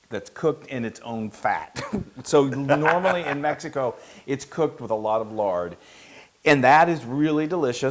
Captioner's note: laugh